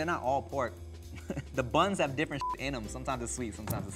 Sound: beep

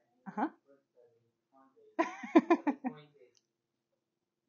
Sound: student speaking faintly; laughing

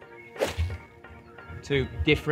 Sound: golf club whooshes

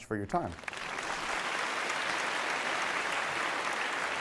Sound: applause

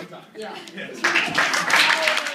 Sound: applause

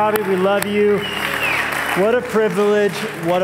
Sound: applause

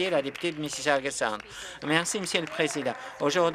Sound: some Applause

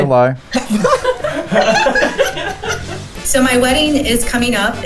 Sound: laughing

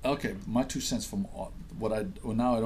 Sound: voiceover

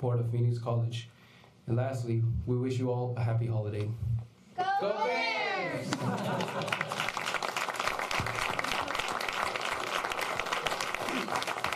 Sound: all student speakers chant; applause

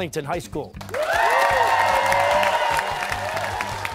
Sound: cheers and applause

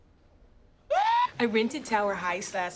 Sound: ABED screams

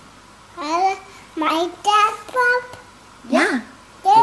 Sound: baby talk

